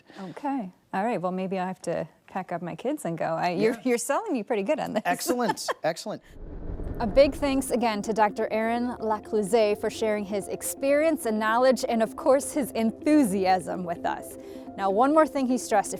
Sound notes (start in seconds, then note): 6.2 transition whooshes